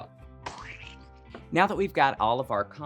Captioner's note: squash squelching